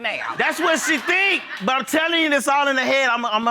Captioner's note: audience laughing